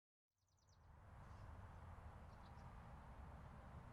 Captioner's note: birds tweeting